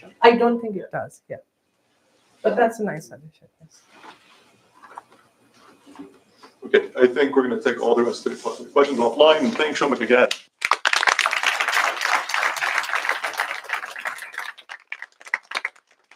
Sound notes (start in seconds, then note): 10.5 applause